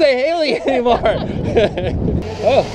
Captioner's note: laughing